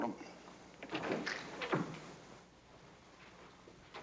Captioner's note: door opens